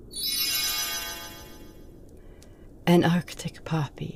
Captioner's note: magic Sound